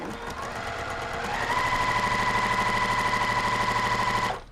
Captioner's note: machine whirring